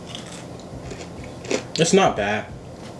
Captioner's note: chews